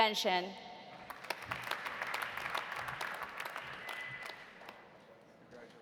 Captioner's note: audience applauding